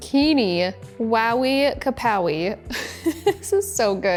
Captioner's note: laughing